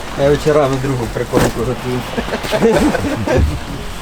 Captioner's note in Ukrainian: сміх